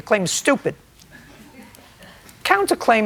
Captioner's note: light laughter